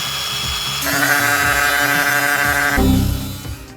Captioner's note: concrete cutter whirring; sheep bleating; computer program crashing alert